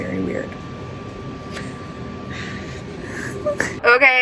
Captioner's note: laughs